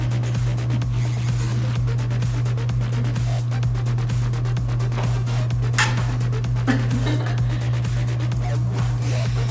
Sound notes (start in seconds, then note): 5.6 slurps noodles; 6.4 laughing